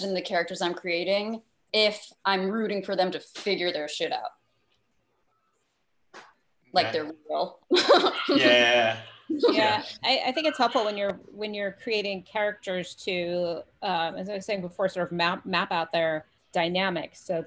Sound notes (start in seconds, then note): 7.7 laughs